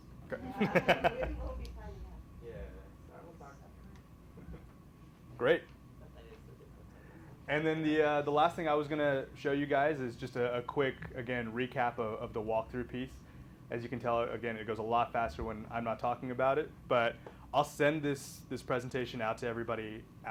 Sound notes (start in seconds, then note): 0.4 laughing; 2.1 people talking